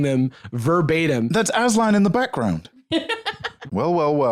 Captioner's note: laughs